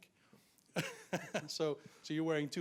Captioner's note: laughs